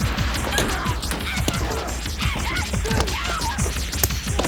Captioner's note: dramatic music; Jodie yelling